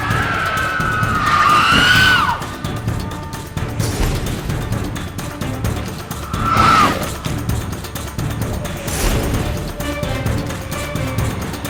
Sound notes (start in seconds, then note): 0.0 screeching; 3.7 magical chime; 6.1 screech; 8.5 magical chime